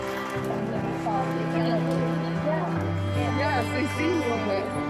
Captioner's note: christmas music; chatter